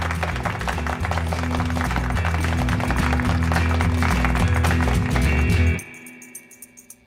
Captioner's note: audience applause